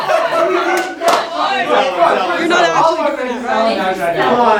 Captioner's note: green team cheering each other on